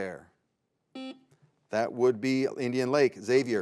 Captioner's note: buzzer beeps